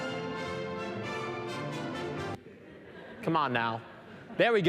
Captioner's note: laughing